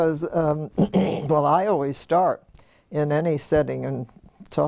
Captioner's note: cough